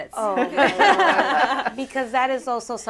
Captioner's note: laughter